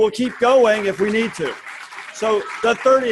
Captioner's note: students applauding